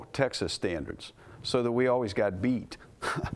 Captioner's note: laugh